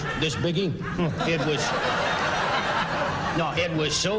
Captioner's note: laughter